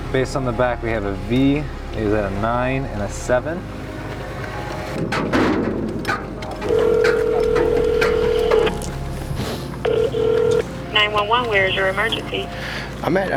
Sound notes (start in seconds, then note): 7.0 phone ringing